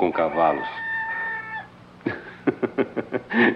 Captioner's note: rooster Crows